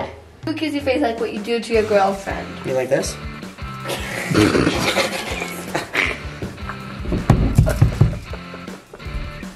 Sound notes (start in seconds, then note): 3.9 laughter